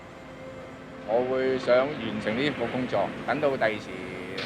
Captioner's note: Cantonese